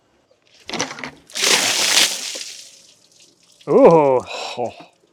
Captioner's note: water splashing